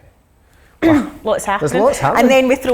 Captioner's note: clears throat